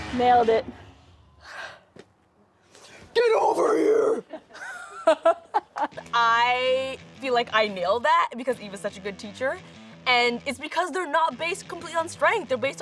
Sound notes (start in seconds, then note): 4.2 laughter